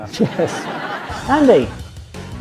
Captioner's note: audience laughs